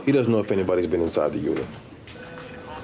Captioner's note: none